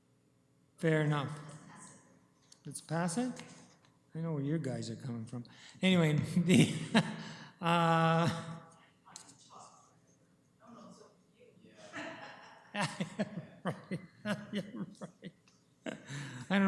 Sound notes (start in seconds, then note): 5.9 chuckles; 11.8 laughter